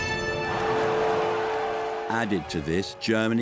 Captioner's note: crowd murmuring